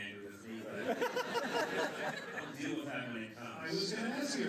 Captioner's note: laughter